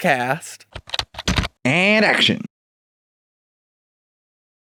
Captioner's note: typing